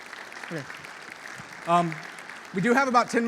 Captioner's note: audience applauding